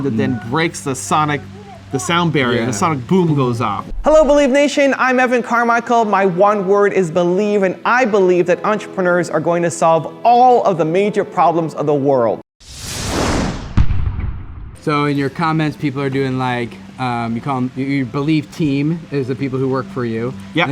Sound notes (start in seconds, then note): 12.6 boom; 12.6 swooshing